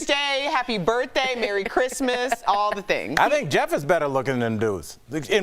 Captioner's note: laughter